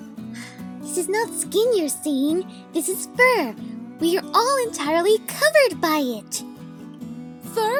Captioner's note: sigh